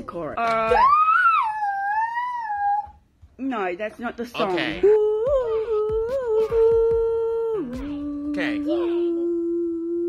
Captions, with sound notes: (child yelling) - No, that's not the song. - Okay. (woman vocalizing) Okay.